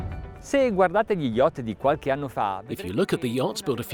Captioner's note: speaking in foreign language